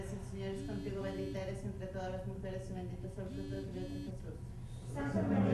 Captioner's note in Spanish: zumbido celular